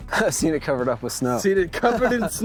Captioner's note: laughs